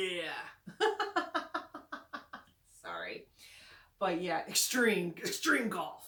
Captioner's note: laughing